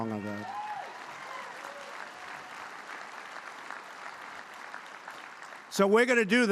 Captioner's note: applause